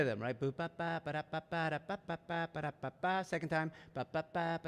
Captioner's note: hums